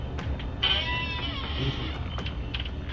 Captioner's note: door creaking